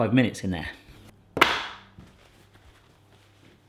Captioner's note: rack thuds